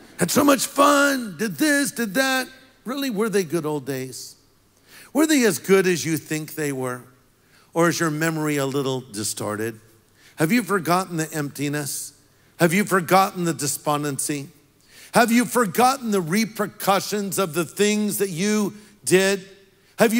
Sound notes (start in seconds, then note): none